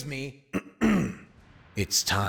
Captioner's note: clears throat; deep raspy voice